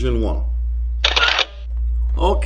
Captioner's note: flash click